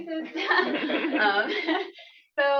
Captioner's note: laughter